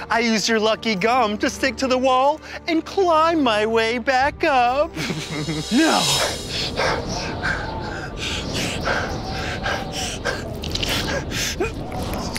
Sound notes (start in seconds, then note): 5.0 laughs; 6.5 panting; 6.6 wind whooshing